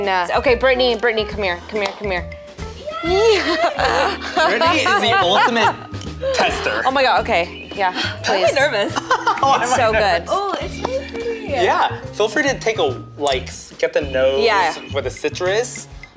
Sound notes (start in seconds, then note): 2.8 cheers; 3.1 laughs; 8.9 laughs